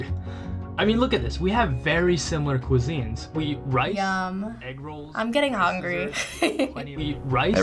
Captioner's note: laughs